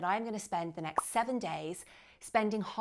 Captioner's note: bubble popping